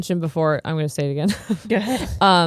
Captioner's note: chuckling